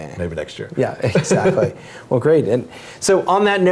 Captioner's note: laugh